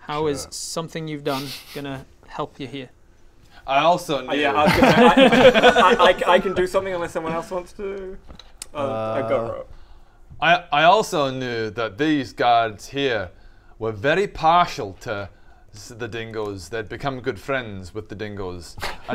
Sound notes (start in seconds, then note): 4.3 laughs